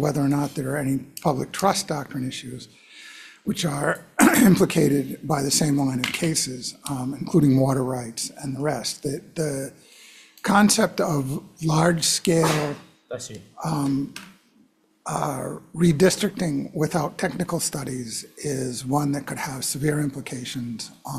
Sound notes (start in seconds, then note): 4.1 coughs